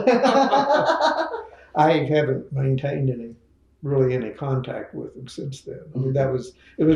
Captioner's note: laughs